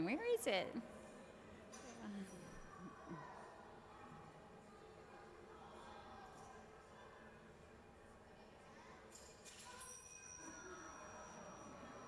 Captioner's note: background conversation